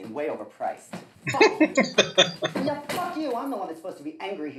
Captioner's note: laughing